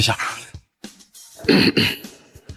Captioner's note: cough, cough